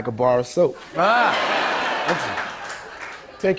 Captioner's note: laughter